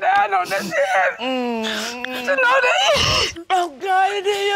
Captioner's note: both sobbing in joy